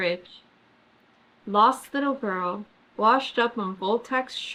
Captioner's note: none